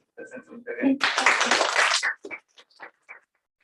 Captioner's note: applause